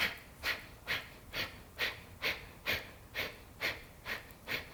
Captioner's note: inhales and exhales